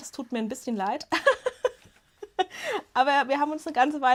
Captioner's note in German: Gelächter